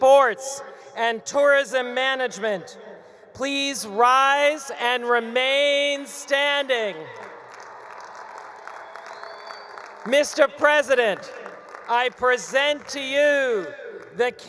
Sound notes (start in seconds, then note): 7.1 attendees cheering; 7.1 attendees applauding